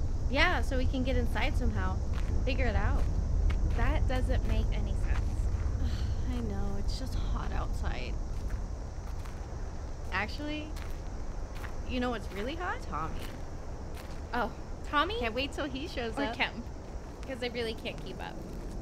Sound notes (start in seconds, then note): none